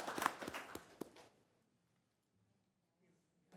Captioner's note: applause